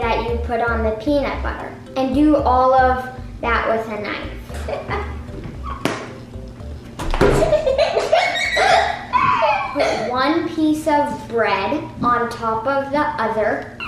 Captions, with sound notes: that you put on the peanut butter and do all that with a knife. (laughing) Put one piece of bread on top of the other.